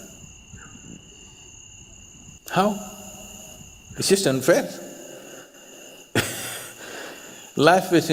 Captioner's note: laughs